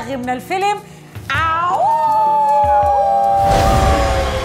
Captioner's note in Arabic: صوت الذئب